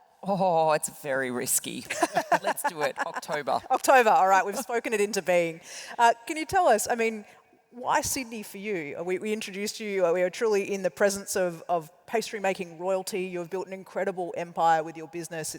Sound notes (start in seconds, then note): 1.9 laugh